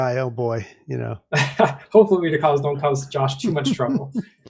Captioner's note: laughs